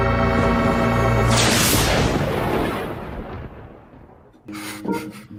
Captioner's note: lightning cracks and echoes